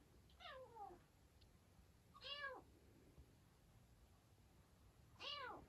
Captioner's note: meow